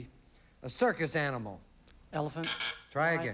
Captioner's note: buzz buzz